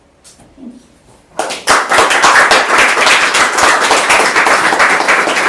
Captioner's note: applause